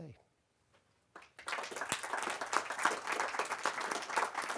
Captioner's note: audience applauds